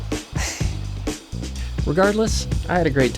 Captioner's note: laughs